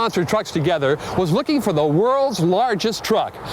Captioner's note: voiceover